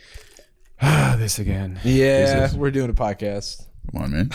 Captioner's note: sighs